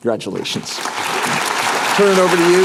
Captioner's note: applause